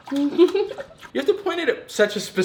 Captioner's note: giggles